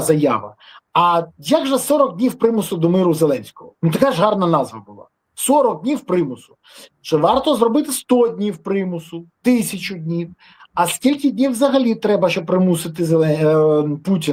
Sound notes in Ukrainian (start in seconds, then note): 6.7 сопіння